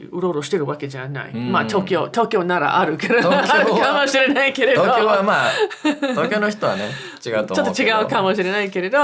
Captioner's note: laughs